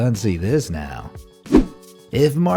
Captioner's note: air whooshing